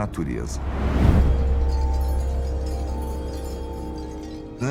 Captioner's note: chime sounds